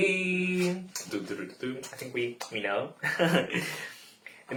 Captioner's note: laughs